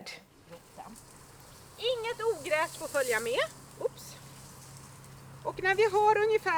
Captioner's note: speaking native language